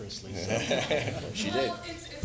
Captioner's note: laughs